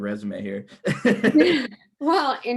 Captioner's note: laughs